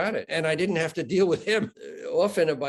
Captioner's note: chuckling